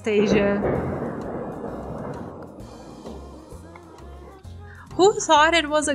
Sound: thunder

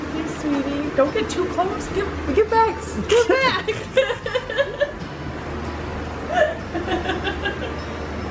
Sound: laughing

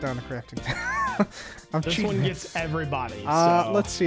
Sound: laughs

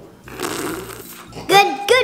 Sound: slurping

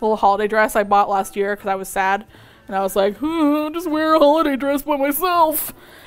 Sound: sad sounds

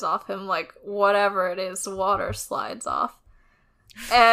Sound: laughs

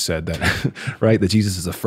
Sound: chuckles

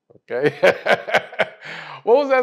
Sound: laugh

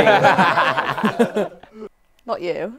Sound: people laughing

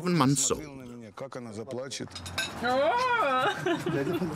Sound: Russian spoken audio

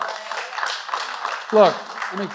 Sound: applause

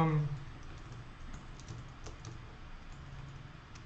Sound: typing

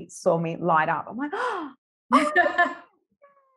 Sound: gasp

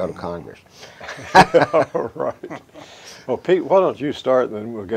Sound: chuckles

